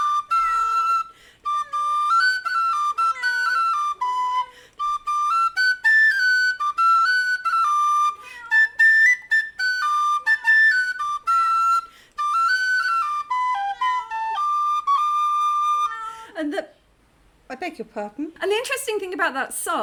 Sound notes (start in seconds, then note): 2.2 whistling; 2.9 cats meowing in the background